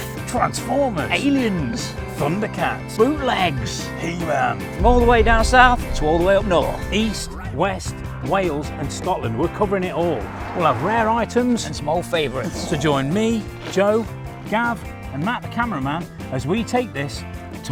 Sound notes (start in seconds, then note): 12.7 imitates explosion